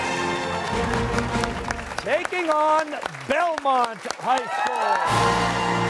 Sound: cheers and applause

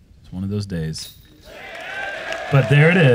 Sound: cheering

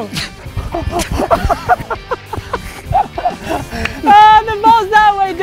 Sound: laughing

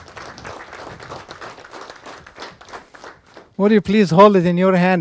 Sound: students applause

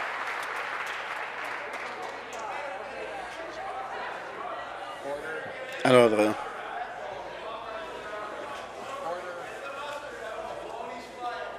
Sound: some Applause

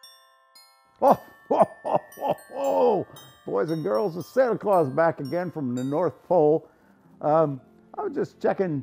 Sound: laugh

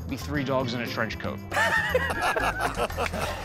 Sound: laughter

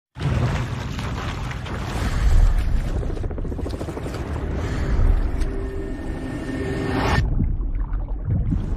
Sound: water churning; heartbeat

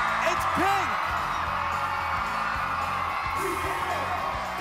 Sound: applause

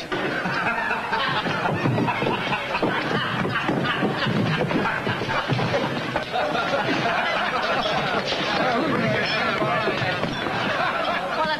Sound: laughter

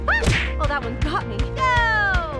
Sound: exclaims

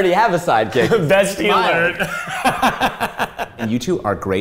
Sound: laughing

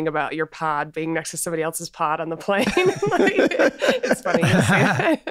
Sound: laughs

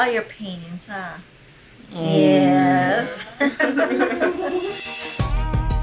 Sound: laughing

